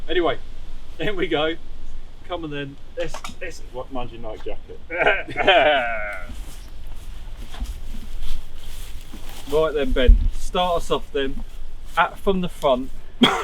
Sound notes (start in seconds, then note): 4.9 laughter